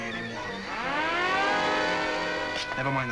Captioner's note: siren blaring